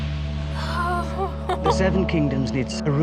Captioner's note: giggles